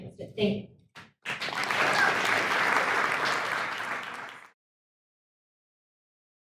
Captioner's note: audience applauds; audience cheers